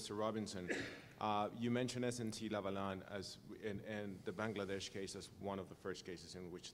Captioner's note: cough